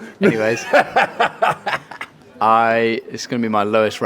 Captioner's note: laughing